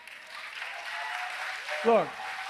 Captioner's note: applause